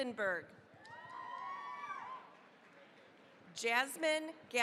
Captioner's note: cheering, applause